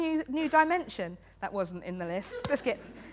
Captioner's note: laughter